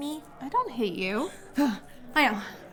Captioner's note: sigh